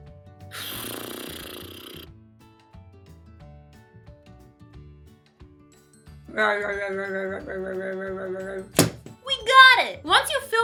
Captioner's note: sound of blowing a raspberry; playful groaning sounds; sound of post-it being slammed onto poster board